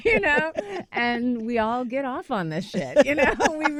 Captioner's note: laughter